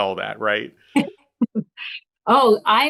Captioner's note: laughing